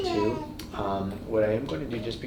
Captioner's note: baby gurgling